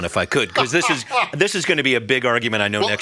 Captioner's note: laughs